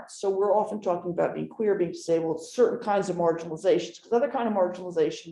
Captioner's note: none